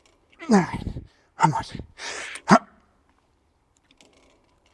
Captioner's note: breathing